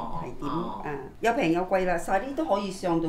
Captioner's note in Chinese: 廣東話